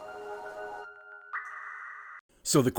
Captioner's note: kiss